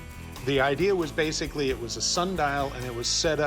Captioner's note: none